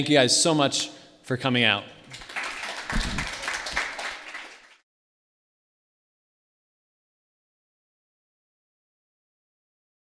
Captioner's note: audience Applause